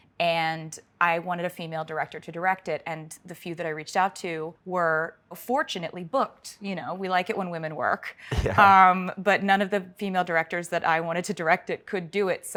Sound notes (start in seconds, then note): 8.3 laughs